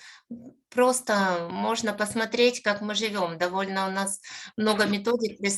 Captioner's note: speaking Ukrainian